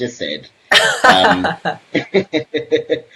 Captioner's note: laughs